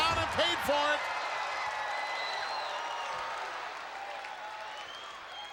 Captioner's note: crowd cheers